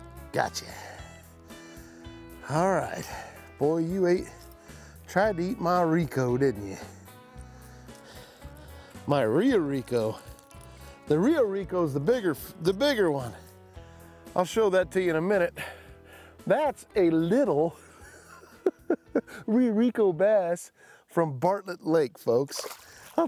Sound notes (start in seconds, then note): 17.8 chuckling